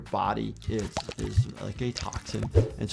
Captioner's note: liquid pouring; screen whooshing